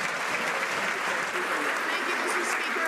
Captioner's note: some Applause